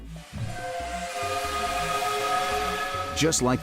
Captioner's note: whistle blows